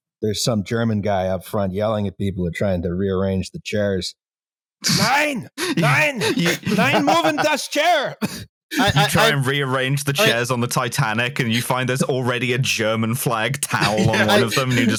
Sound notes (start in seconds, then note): 4.8 laughs; 13.6 laughter